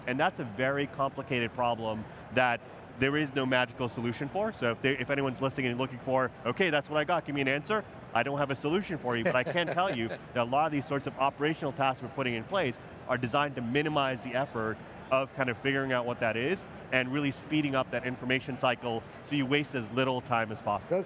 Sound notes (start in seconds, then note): 9.1 laughing